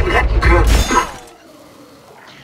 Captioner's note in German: Laser-Schuss